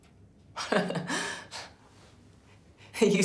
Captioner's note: laughing